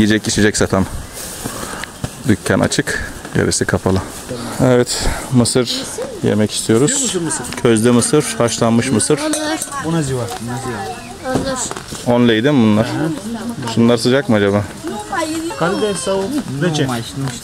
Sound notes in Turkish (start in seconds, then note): 10.9 Rumence konuşmalar